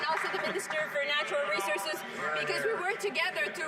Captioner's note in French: voix de l'interprète